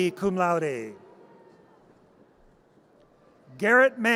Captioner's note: audience cheers